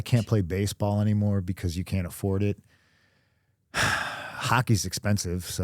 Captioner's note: sighs